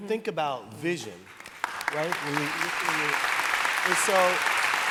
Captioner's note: applause